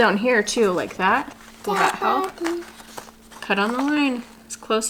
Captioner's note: babbles